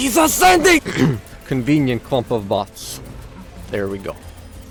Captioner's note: cough